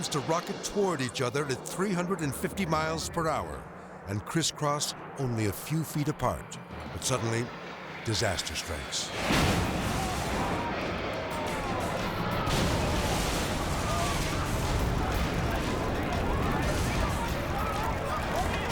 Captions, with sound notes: to rocket toward each other at 350 miles per hour and crisscross only a few feet apart, when suddenly disaster strikes. (plane explodes) (tense music)